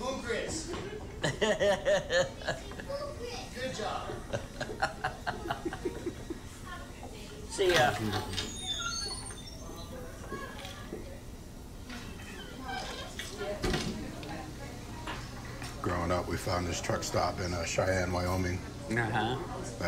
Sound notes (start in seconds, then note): 1.2 laughs; 3.9 laughing